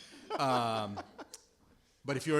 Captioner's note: laughter